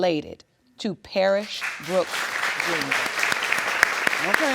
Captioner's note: applause